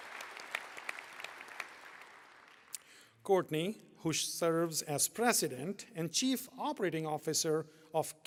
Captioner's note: applause